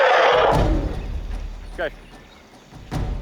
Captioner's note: roars